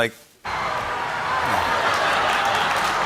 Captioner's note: cheering; laughter and applause